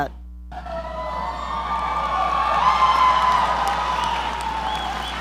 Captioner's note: audience applauding